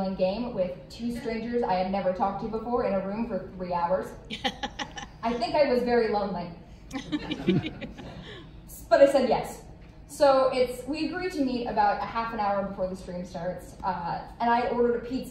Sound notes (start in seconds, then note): 4.3 laughs; 6.9 laughter